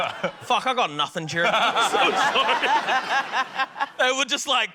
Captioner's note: scattered laughter; laughter